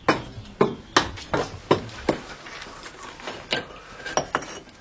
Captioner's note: knocking, soft jingling